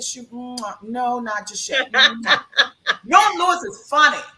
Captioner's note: lips kiss; laughs; lips kiss